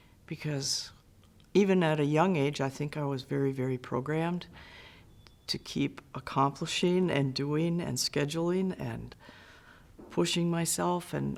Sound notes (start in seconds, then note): none